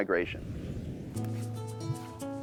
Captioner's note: whooshing; soft music